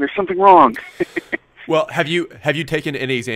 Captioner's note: laughs